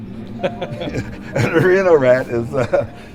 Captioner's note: laughter